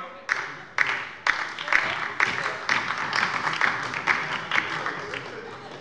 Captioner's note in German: Beifall bei der SPD und der LINKEN - Zuruf von der CDU